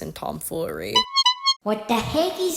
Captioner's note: clown honk